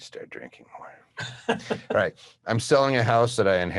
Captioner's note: laughing